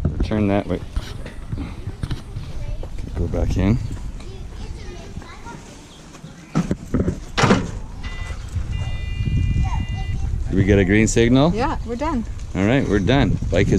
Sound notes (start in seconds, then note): 7.9 bike rack beeping